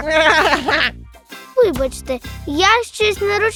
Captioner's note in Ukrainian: сміх